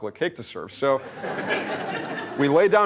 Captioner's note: laughter